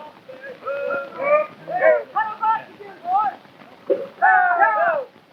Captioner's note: men shouting